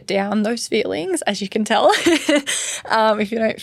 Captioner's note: laughs